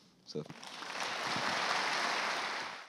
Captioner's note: applause